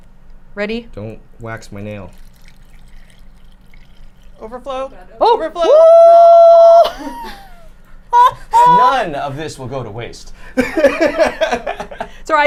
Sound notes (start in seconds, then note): 1.9 liquid sloshes; 7.0 whoops; 10.6 laughs